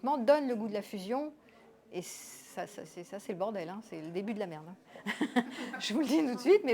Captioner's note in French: rires